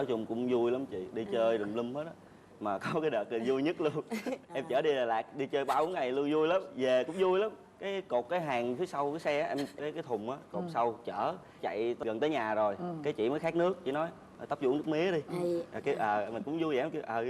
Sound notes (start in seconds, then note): 8.6 laughter